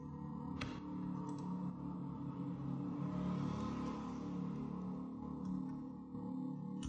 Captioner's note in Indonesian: motorcycle